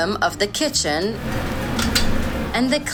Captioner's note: sound of meat grilling